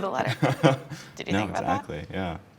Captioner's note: laughing